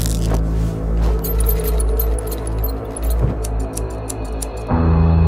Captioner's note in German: Schere schneidet